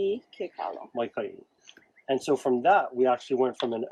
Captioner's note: speaks in native language